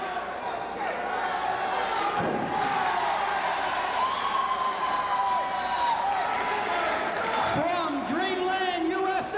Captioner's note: crowd chatter